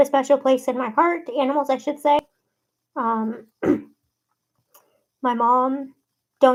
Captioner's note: clears throat